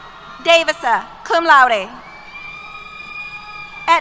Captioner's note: cheers